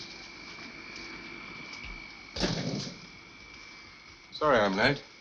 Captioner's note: machine whirring